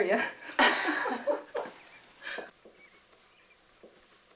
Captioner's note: laughing